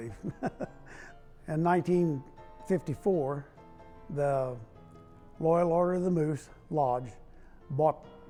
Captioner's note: laughing